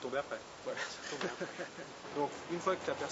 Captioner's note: laughter